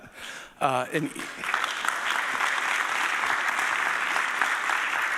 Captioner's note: audience applauding